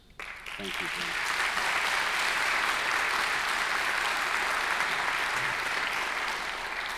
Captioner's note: crowd applauds